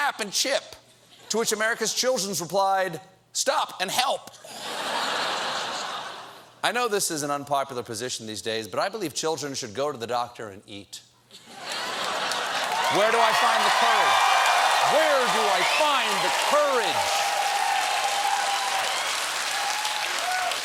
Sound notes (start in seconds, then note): 4.4 laughter; 11.3 laughter; 11.7 cheers and applause